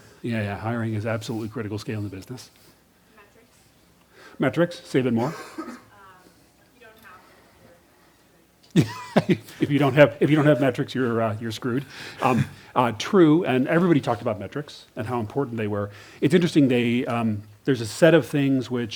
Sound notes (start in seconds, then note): 3.1 voiceover; 6.7 voiceover; 8.7 laughs